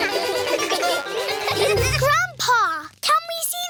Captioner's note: all giggle